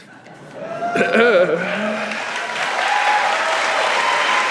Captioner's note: audience applauding